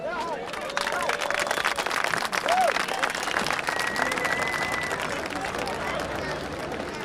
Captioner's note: applause